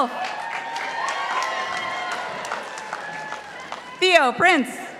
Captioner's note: participants applauding